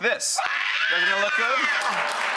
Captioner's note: screaming